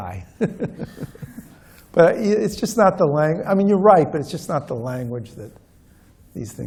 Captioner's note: laughs